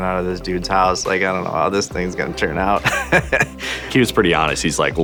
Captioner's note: laughing